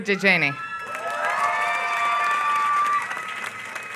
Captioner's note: applause